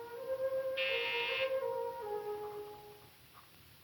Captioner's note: door buzzes